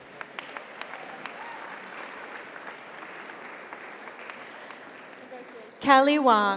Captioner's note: audience applauds; audience cheers